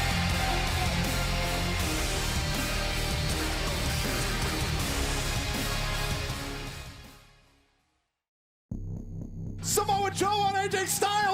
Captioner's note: cheers and applause